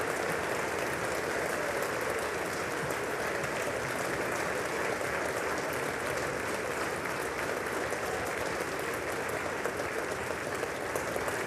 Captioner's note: applause